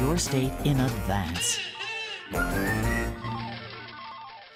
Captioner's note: evil laughing